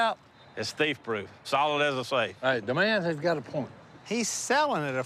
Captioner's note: none